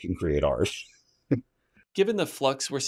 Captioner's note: laughs